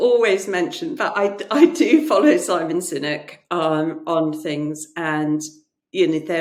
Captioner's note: chuckles